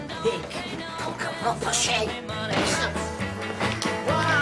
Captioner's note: speaking lithuanian